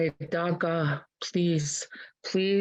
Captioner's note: speaking in Native language